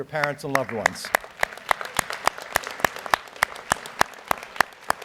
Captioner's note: audience applauds